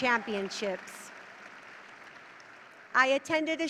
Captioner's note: audience cheering